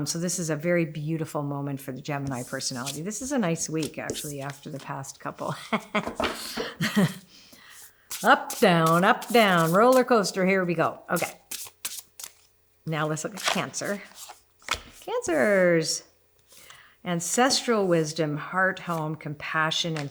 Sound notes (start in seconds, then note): 5.5 laughs; 13.1 cards rustle